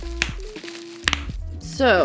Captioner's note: bubble wrap pops